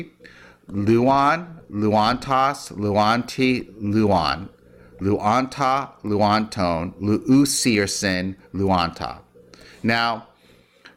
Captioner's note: speaking greek